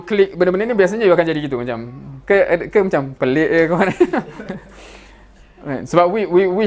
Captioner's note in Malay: ketawa